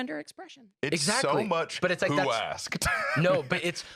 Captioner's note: laughs